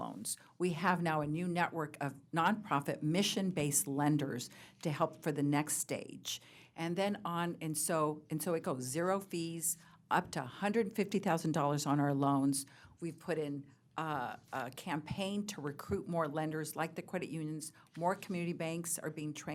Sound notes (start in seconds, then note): none